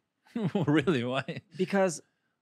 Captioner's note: laughs